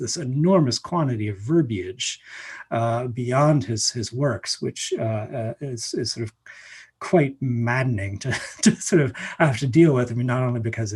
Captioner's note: laughs